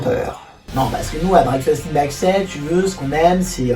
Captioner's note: parisian Accent